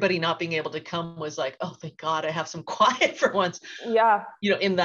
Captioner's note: laughs